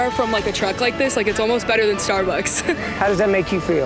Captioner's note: laughs